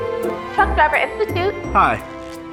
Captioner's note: on the phone